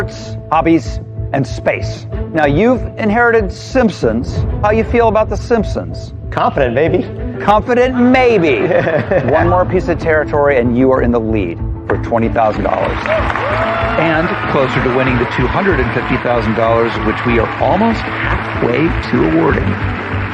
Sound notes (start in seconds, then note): 8.6 chuckles